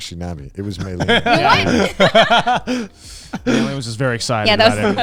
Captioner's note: all laughing